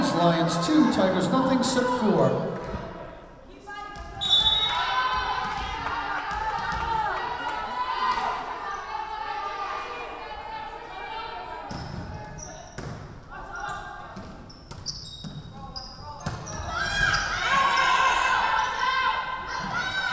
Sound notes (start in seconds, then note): 4.2 whistle blowing